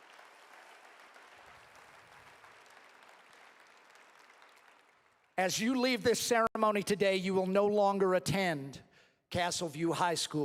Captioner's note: applause